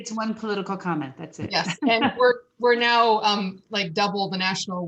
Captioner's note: laughter